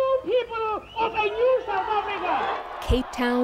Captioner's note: cheering and applause